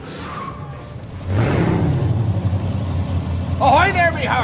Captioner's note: engine roaring